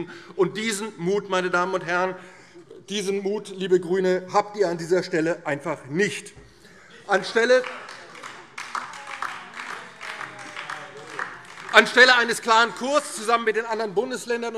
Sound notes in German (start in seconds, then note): 7.2 Beifall